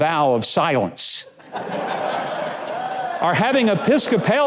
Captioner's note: audience laughs